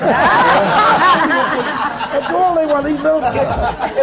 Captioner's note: laughter